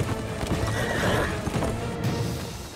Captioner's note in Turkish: At kişneme sesi